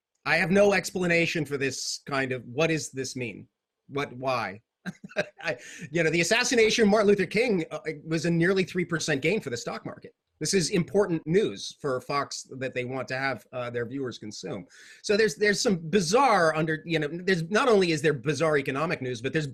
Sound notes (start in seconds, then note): 4.8 chuckles